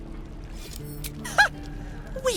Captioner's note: relaxed guitar, background music; click